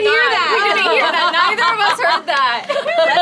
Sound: all yelling

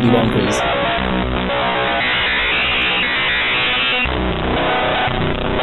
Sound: virus blaring rhythmically

